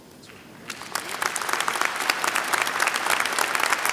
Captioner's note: applause